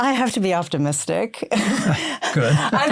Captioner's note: laughter